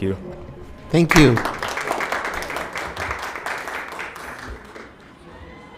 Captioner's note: applause